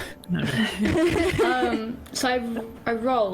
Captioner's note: all laugh